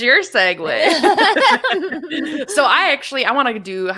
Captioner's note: both laugh